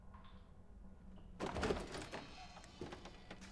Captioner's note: door opens